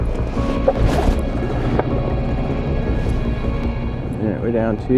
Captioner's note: boat rumbling